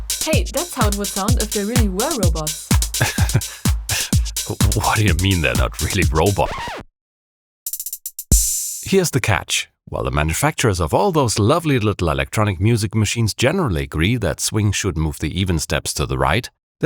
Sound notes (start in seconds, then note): 3.8 scoffing in disbelief